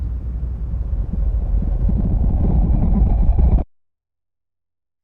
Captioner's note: wind whooshing